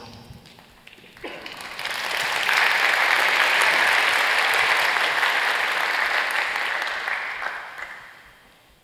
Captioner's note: applause